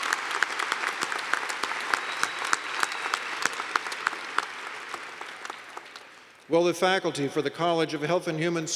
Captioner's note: applause